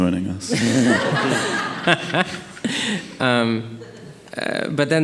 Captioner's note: audience laughing